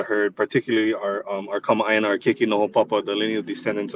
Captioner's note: speaks Hawaiian